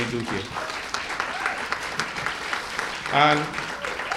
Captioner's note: cheers and applause